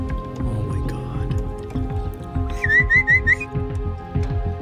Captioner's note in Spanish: Silbidos